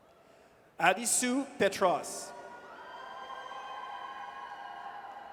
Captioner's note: audience cheers